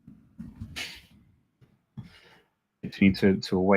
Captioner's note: chuckles